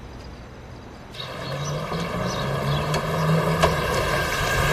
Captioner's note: birds chirping